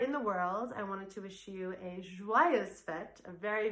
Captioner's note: speaks in foreign language